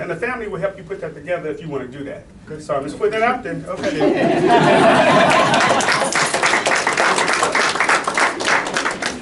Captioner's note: clapping